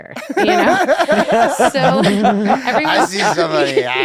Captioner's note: laughter